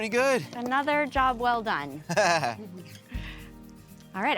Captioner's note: Drew laughs